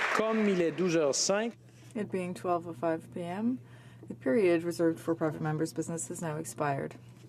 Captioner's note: applause; speaking french